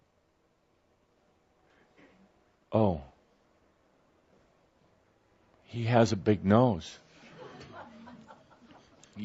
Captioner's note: some laughter